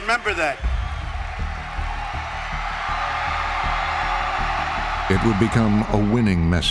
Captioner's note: cheers and applause